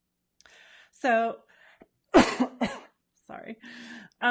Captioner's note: coughs